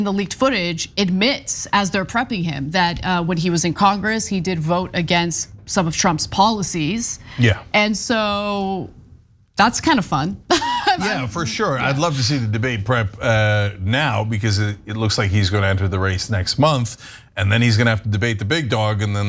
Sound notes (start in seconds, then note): 10.5 laugh